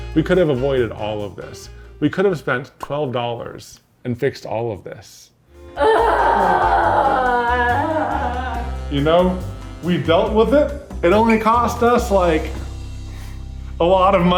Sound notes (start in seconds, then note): 5.8 groans